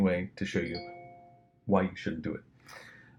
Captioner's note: ping tone